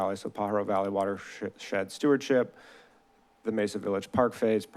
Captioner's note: none